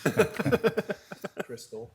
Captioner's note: people laughing